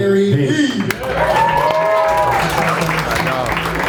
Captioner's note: applauding